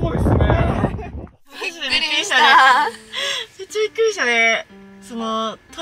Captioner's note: laughs